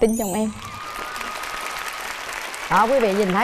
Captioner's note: applause